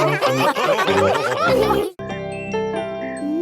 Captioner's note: all laughing